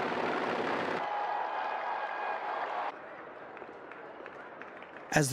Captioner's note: crowd cheering